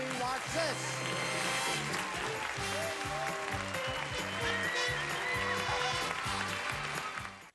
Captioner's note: audience applauding